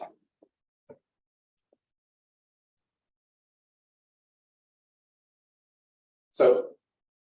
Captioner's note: silence